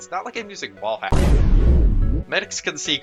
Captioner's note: wrorbley boomthud